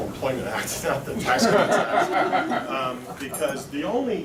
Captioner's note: laughter